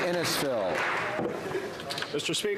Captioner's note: some Applause